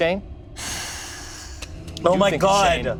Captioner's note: sighing